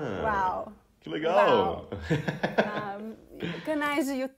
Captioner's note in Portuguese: risos